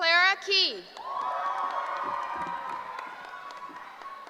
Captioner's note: cheering